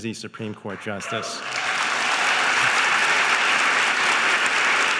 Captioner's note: audience applauding